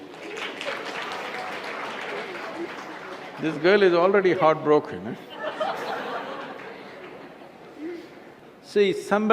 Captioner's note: few laugh